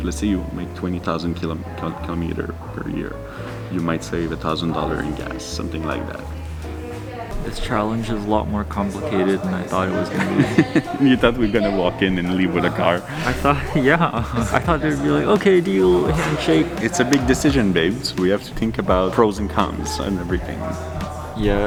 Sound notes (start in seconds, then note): 10.1 chuckles